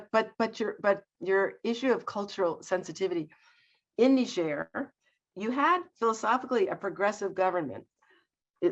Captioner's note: none